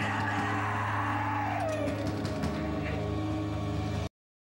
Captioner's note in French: Coups sur la porte